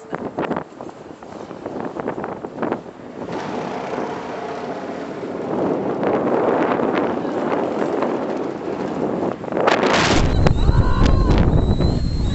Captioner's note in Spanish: Viento fuerte